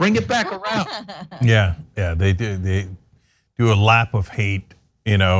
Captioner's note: laugh